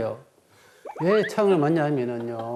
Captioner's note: hahahahahaha